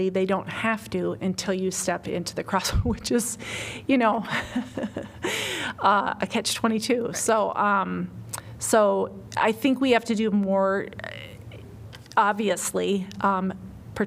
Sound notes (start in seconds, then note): 4.2 laughter